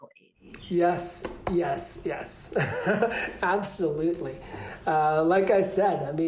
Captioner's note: laughter